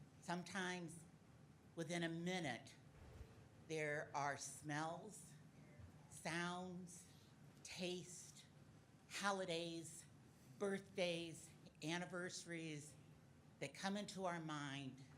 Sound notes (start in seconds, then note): none